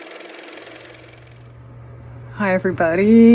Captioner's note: car motor